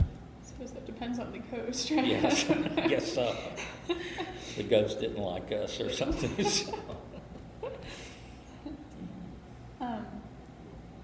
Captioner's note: laughs